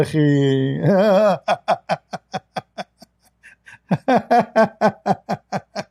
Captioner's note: Ketawa